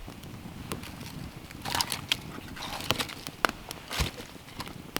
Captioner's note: fire crackling